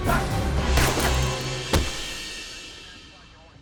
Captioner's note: gun fires